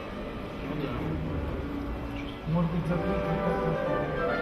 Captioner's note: people chattering in foreign language; light orchestral music